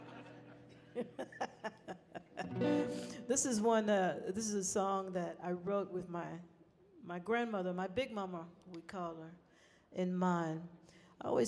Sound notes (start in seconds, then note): 0.0 people laughing; 0.0 laughing